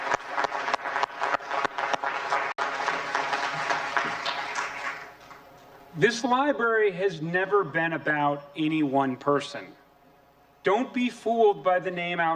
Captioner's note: applause